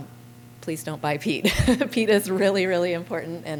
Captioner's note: laughter